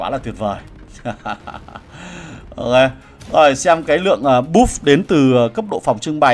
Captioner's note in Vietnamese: tiếng cười